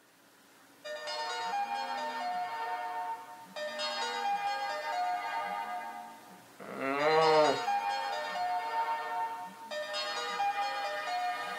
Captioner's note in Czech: vyzvánění telefonu